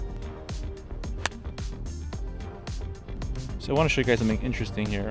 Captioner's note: man hits golf ball